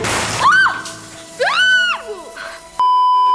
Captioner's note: screams